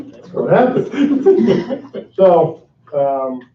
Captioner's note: laughing